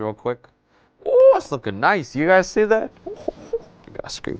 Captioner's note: small laugh